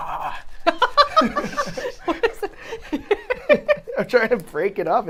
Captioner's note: all laughing